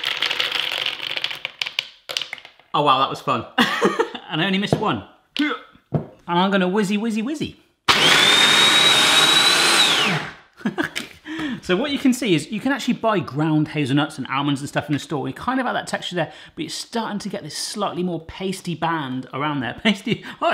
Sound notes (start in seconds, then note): 7.8 blender whirs